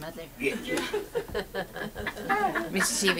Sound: audience laughs

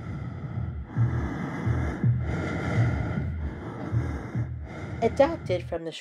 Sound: heavy breathing, heartbeat

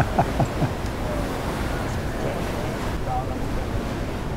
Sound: laughing

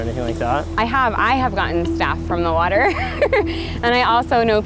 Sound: laughs

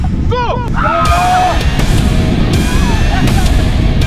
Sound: screaming; metal music

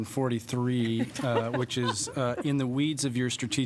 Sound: laughter

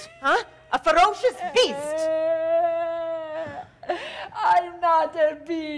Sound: Sharik softly crying

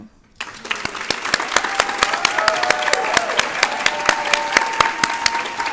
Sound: applause

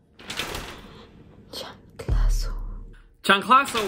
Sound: whispers

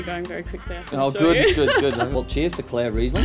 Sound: laughing

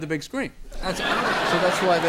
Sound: audience laughter

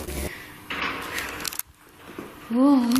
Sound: banging

